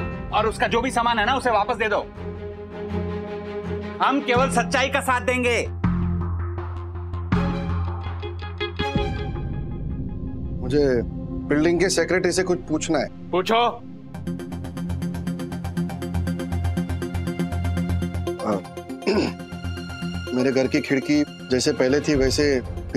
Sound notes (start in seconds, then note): 6.1 tense music playing; 14.2 dramatic music playing; 19.0 clearing throat